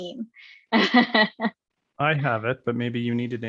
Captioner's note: laughs